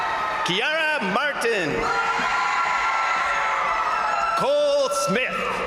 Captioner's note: crowd cheering